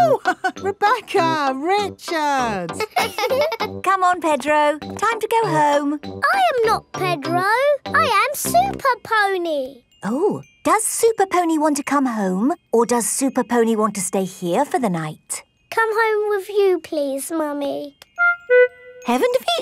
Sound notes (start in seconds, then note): 2.7 both laughing; 2.7 chuckles